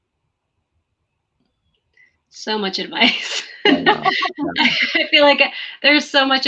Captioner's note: laughter